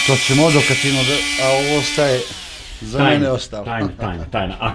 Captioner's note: laugh